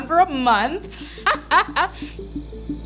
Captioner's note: laughs; gentle music continues